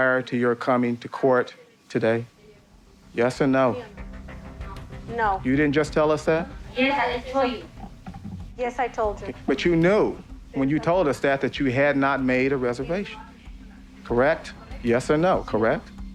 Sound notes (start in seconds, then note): 8.8 speaking Spanish